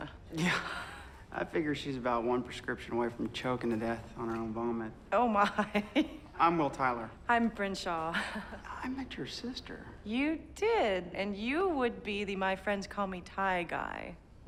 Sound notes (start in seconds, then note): 5.7 laughs